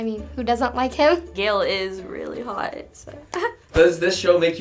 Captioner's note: giggles